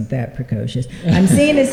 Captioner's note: laughter